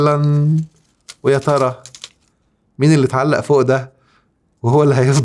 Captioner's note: laughs!